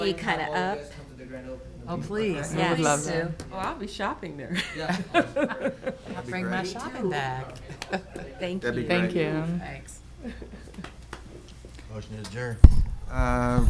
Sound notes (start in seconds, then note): 4.6 laughs